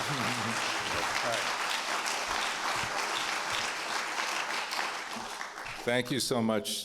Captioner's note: applause